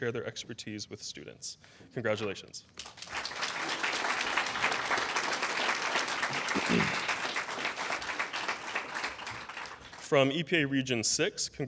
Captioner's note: applause